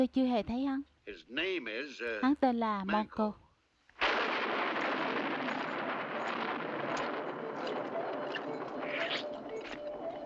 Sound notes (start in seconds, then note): 4.0 thunder